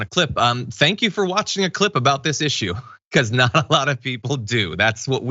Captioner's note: laugh